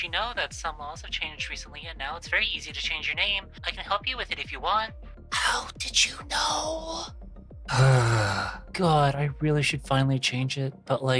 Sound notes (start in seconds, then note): 7.7 sigh